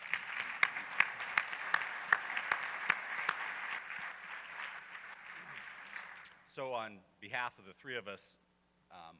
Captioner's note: applause